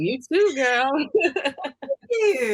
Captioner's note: laughs